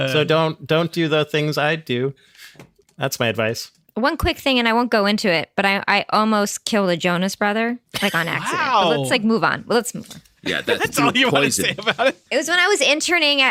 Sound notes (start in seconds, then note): 10.4 laughing